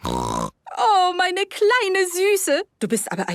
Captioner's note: snorting; speaking German